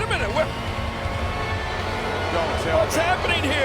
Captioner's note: audience jeers